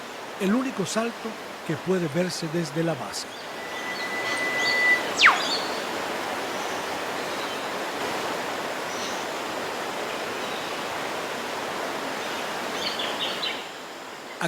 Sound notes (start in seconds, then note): 3.4 waterfalls sounds, birds calls